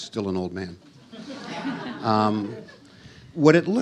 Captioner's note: audience laughs